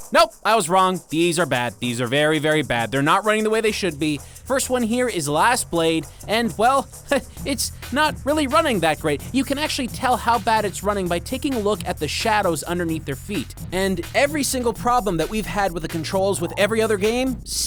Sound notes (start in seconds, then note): 6.4 chuckles